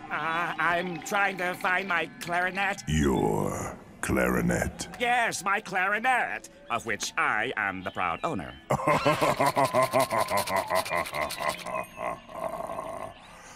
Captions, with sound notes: I'm trying to find my clarinet. Your clarinet? Yes, my clarinet, of which I am the proud owner. [laughter]